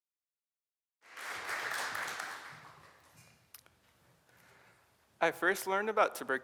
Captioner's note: applause